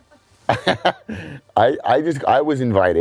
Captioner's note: chuckles